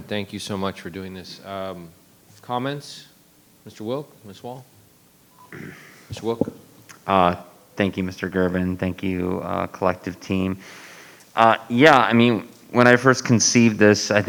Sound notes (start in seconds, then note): 5.4 throat clearing